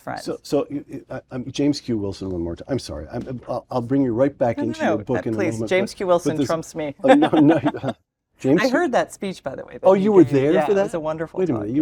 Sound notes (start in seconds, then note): 7.0 laugh